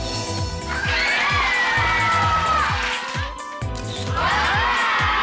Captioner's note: crowd exclaims and claps